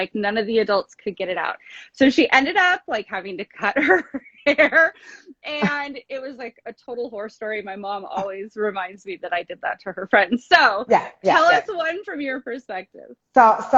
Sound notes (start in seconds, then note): 4.9 laughs